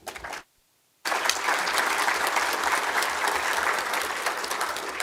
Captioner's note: applause